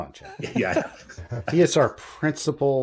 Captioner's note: laughter